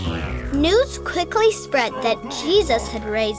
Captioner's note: voiceover